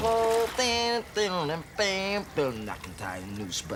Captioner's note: imitates guitar riff